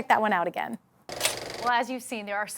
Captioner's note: film rolling sound